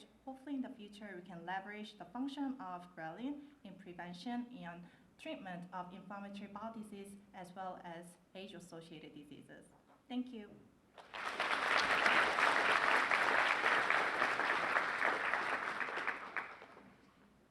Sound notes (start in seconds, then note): 10.9 applause